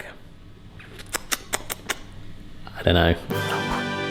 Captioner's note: lips smacking; musical fanfare